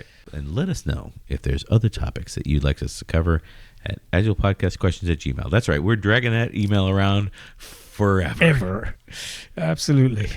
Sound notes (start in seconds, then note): 8.0 uh